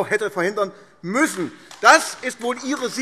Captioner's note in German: Beifall AfD